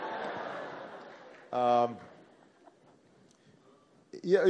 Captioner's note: laughter